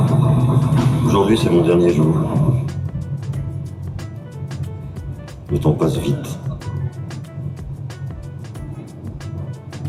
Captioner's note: speaking French